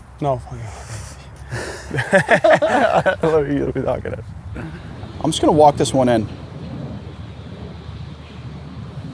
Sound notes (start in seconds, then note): 0.6 laughs; 3.5 indistinct Chatter